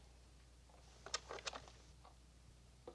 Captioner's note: clicks on the tape recorder